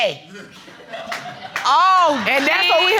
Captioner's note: audience laughing